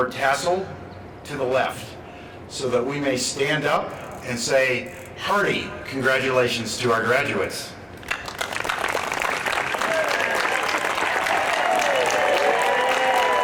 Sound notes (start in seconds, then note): 8.0 applause